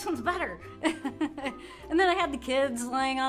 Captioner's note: laughter